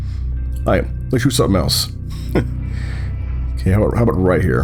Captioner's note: light chuckle